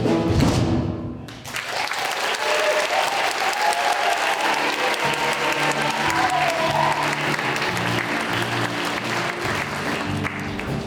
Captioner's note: applause